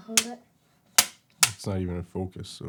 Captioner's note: clapperboard claps